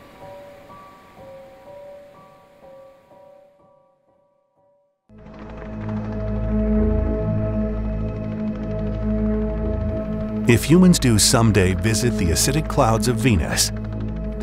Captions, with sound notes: (propellers ticking) (intense music) If humans do someday visit the acidic clouds of Venus,